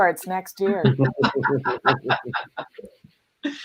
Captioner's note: laughter